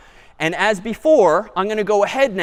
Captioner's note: none